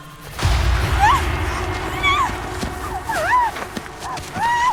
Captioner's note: gritty impact; shuffling